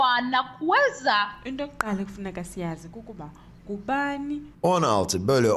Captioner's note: woman speaking Xhosa; man speaking Turkish